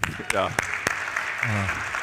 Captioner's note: applause